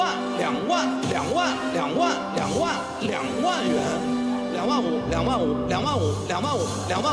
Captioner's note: veilingmeester spreekt in het chinees